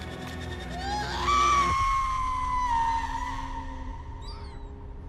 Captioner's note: Sandy screams